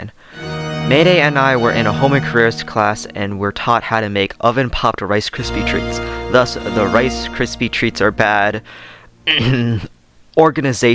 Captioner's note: clears throat